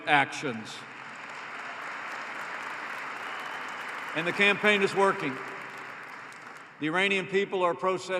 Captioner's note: applause